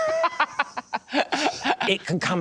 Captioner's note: laughter